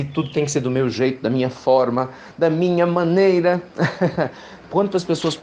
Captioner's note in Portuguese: risos